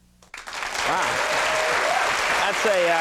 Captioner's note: applause